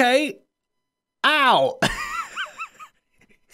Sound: laughs

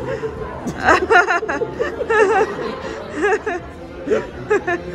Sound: laughing

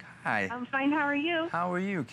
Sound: laughter

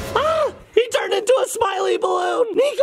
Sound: shrieks

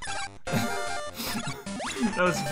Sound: chuckle

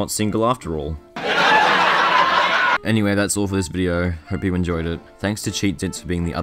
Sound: crowd laughter

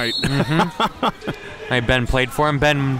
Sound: both laugh

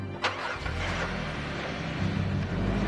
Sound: car engine revving; dramatic music

